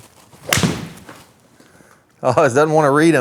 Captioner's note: golf ball pings